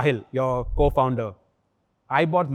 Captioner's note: chuckles